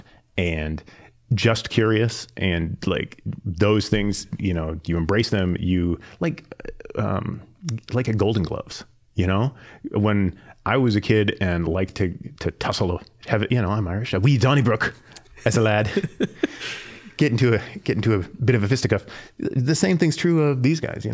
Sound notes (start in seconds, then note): 15.2 laughing